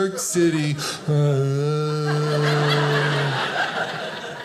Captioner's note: groans